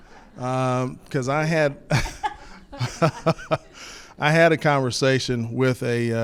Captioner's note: attendees laugh; laughs